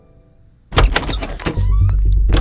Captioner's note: Door opening